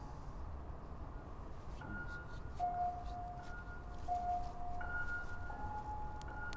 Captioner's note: none